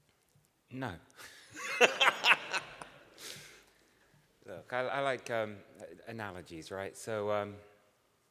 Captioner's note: laughter